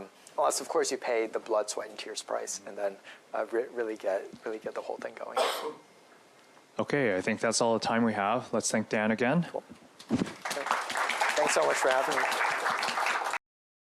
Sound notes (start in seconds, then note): 10.2 applause